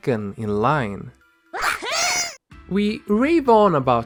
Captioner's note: Klonoa unison: "Wahoo!"